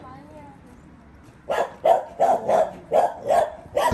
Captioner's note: barking Intensifies